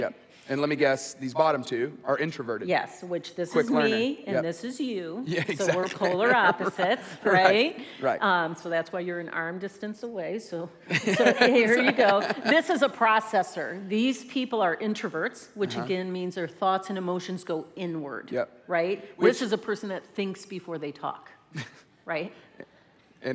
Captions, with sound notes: - And let me guess, these bottom two are introverted? - Yes. - Quick learner. - And this is you, so we're polar opposites, right? So that's why you're at arm distance away. (laughs) This is a processor. These people are introverts, which again, means their thoughts and emotions go inward. This is a person that thinks before they talk, right?